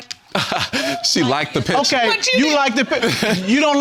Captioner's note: laughs